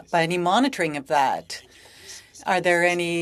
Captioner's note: speaking French